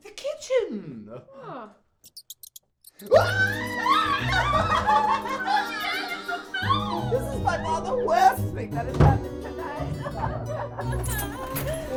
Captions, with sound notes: The kitchen! *squeaking* *both screaming* Bloody hell, it's a mouse! This is by far the worst thing that has happened tonight!